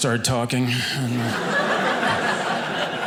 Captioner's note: audience laughing